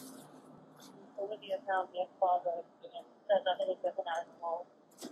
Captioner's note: radio chatter